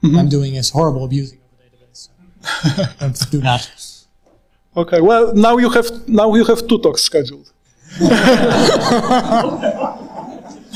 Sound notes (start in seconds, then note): 2.4 laughing; 7.8 all laughing